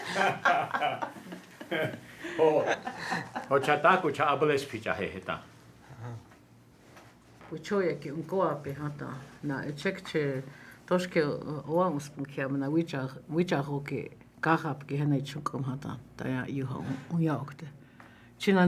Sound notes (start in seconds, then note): 2.2 speaking Lakota